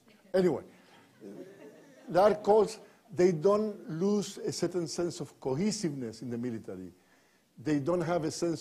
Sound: laughter

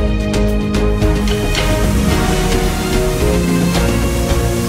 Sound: water flows

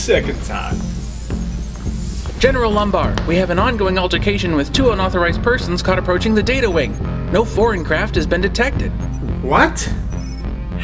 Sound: A door whirrs as an officer enters

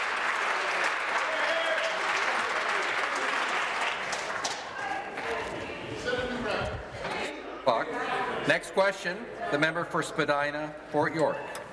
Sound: some Applause

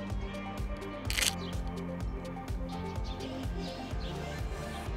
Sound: camera clicking

